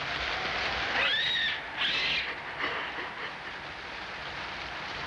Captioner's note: monkeys screeching